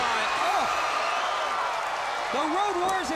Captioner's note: crowd cheers